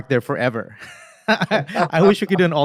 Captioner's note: both laugh